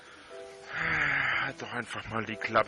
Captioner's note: sighs